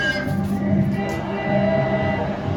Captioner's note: car horn